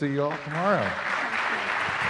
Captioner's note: applauding